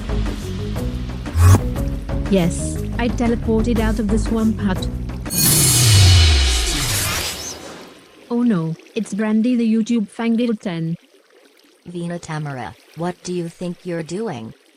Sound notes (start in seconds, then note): 1.3 vwoop